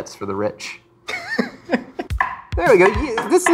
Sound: laughs

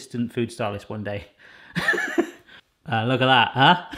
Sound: giggle

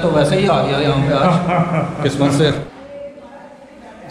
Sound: laugh

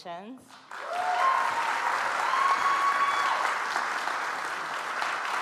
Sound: audience applauds

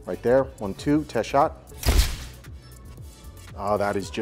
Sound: camera shuttering

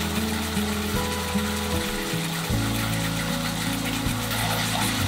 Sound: happy cooking noises

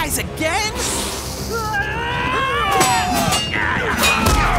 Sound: all grunt

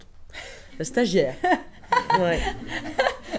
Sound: laughs

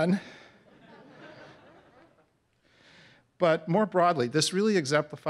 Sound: laugh

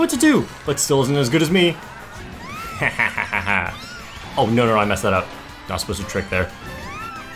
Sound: evil laugh

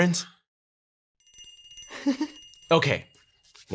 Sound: bells chime; giggles

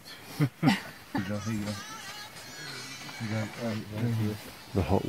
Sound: laughing

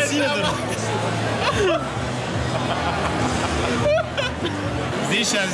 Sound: Dud' and Anton laugh

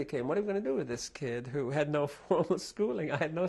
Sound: laughs

